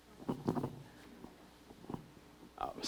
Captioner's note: audience member speaking